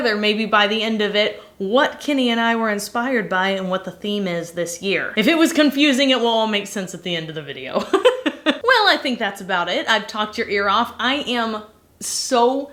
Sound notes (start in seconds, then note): 7.8 laughing